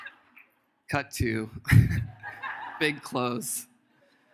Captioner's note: audience laughs; laughs